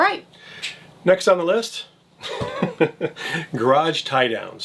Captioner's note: laughs